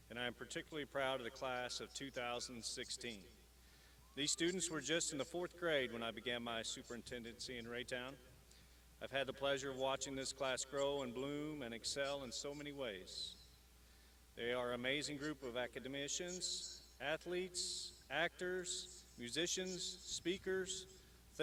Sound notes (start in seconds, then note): none